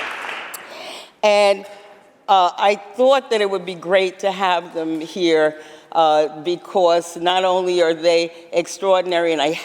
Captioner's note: applause